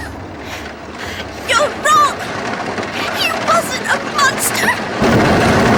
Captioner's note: approaching carriage; sobbing